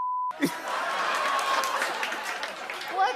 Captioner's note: laughter